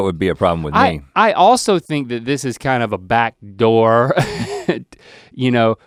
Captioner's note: laughs